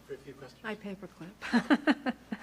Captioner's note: laughs